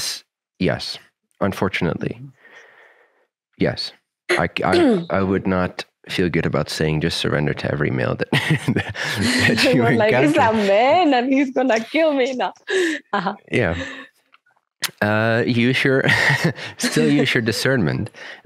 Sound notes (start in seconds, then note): 10.8 both laughing